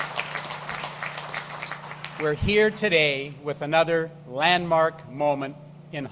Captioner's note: applause